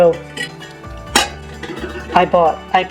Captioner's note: slam